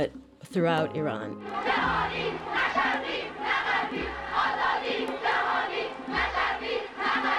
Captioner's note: soundbite of archived recording